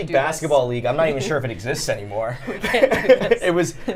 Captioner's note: laughs